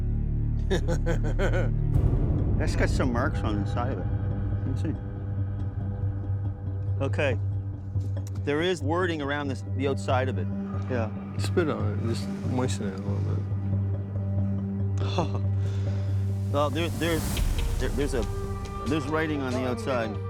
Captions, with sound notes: [laughing] That's got some marks on the side of it. Let me see. OK. There is wording around the outside of it. Yeah, spit on it. Just moisten it a little bit. [laughing] Well, there's-- there's writing on the outside.